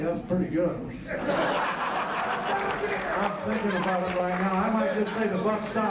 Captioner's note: laugh